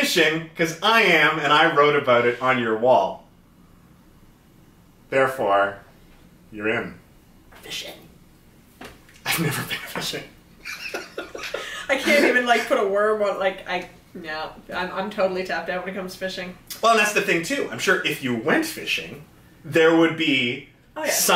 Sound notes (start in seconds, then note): 10.6 laughter; 10.6 laughing